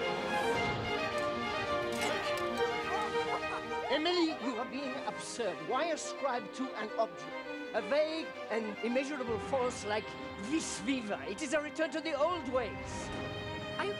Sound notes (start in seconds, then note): 2.2 both laughing